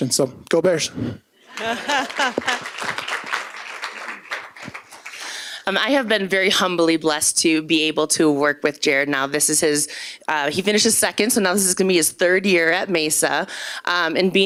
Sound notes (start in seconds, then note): 5.0 applause